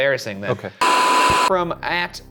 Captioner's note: television static